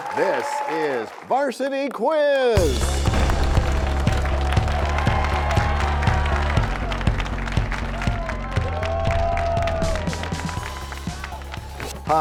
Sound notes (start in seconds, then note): 2.7 crashing sound; 8.2 cheers and applause